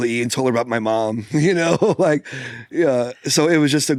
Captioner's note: laughs